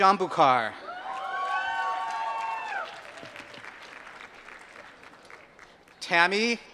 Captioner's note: applause